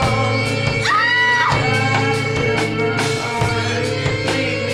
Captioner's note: woman screams